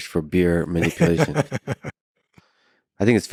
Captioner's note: laughs